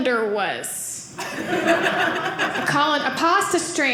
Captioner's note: audience laughing